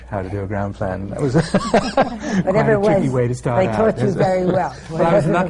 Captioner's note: laughter